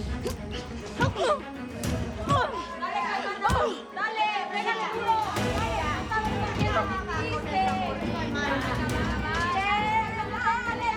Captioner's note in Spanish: Golpes